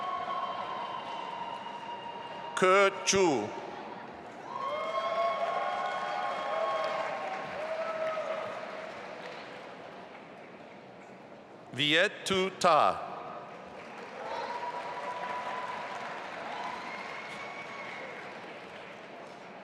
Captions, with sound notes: Ke Zhu. (audience applauding and cheering) Viet Tu Ta. (audience applauding)